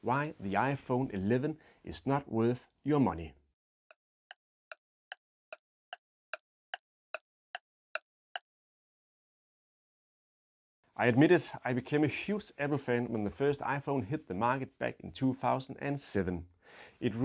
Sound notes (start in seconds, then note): 3.8 clock ticks